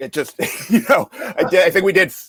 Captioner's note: laughs